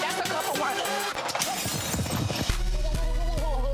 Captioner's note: glasses shattering; bodies thudding